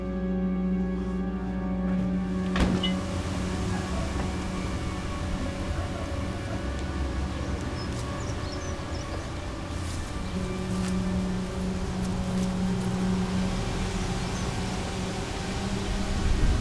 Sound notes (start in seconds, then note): 8.1 distant birds chirping